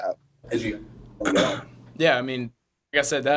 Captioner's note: voice distorted